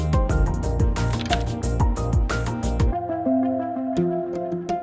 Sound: lock clicking

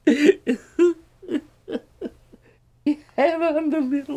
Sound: sobbing

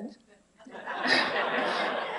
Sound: laughter

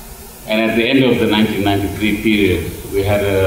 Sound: none

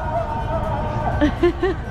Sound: laugh

